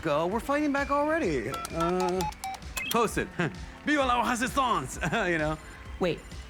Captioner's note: chuckles